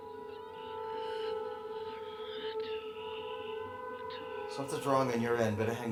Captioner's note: eerie music; gasping